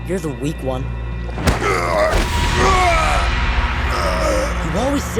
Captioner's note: groaning